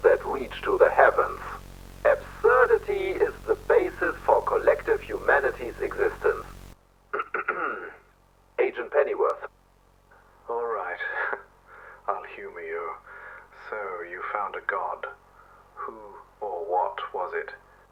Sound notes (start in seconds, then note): 7.1 clears throat